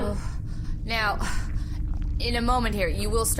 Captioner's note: slightly laboured breathing again